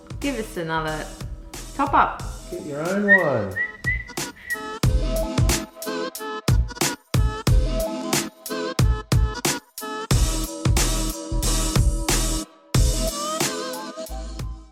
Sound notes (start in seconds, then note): 2.9 playful whistling; 5.0 rousing upbeat music